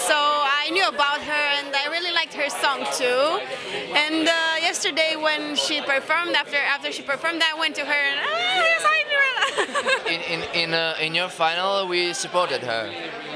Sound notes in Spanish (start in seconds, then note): 9.3 risas